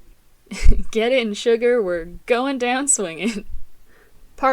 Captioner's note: laughing